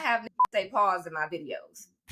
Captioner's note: beep